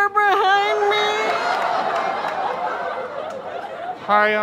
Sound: audience laughter

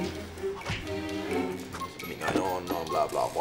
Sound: fighting noises

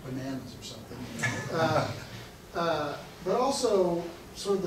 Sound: audience laughing

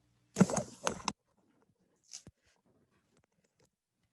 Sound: rattling

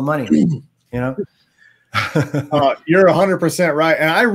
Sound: laughs

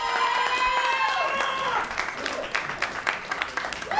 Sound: crowd cheering

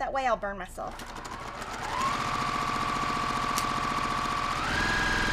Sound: sewing machine whirling

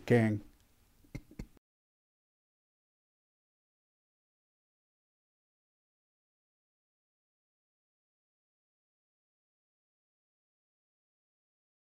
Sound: silence

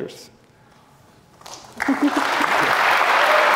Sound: applause

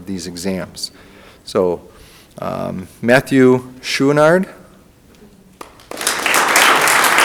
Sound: audience applauding

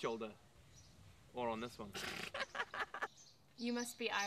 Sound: laughs

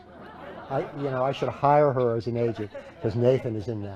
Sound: laughter

